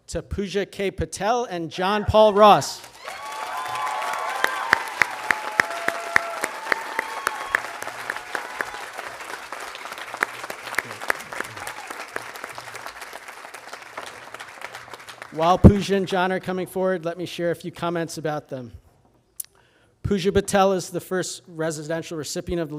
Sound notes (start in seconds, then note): 2.8 audience cheering and applauding